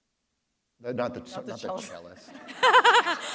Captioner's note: laugher